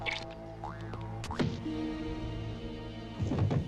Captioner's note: blow thuds; floor thumps